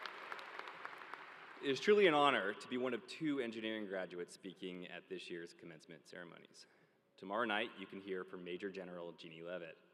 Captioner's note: applause